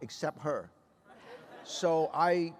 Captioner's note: laughter